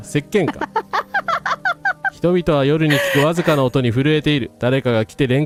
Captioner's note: laughter